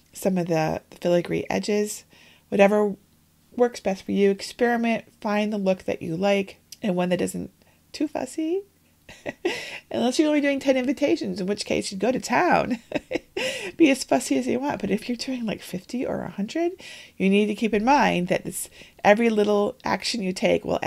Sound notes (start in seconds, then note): 9.1 laughs; 12.7 laughs